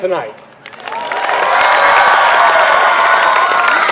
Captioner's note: applause